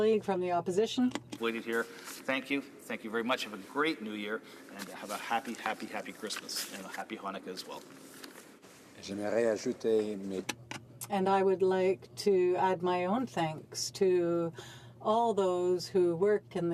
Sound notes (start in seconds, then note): 4.6 speaking French